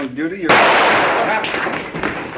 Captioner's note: gun goes off